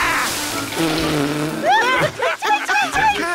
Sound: yelps / spits; laughter

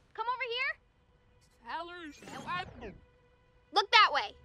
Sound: distorted audio

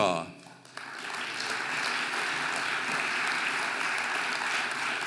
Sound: audience applauding

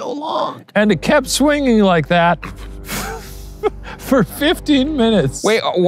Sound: laughs

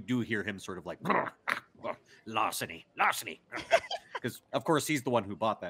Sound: harrumphs

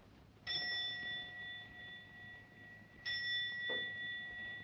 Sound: clock chiming

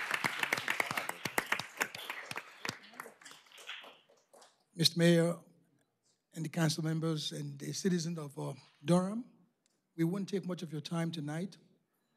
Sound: applause

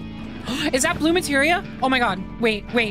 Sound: gasp

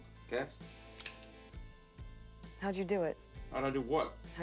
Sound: trigger clicks

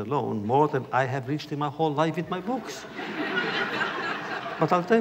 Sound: laughter

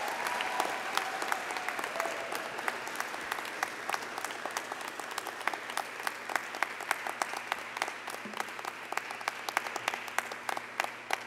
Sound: applause

